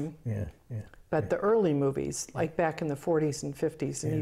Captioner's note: laughs